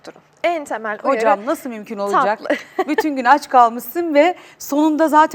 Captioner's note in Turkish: kahkaha